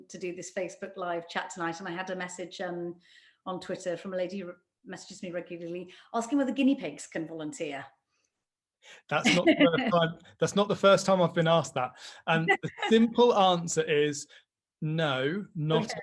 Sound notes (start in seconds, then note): 9.2 laughs